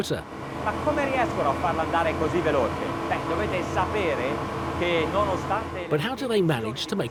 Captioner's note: speaking in foreign language